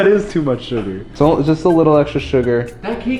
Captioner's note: chuckles